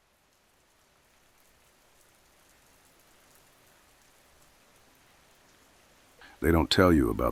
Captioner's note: sound: Low-frequency hum. Muffled city rain hitting hollow cardboard